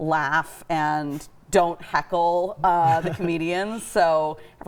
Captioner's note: chuckling